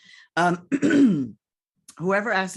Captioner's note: clears throat